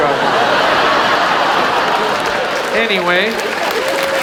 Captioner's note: audience laughs; audience applauds